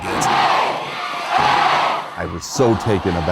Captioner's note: yelling